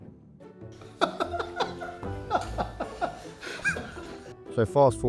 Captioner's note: laughs